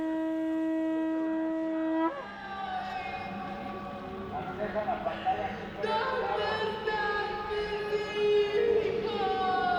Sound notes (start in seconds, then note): 2.9 in foreign language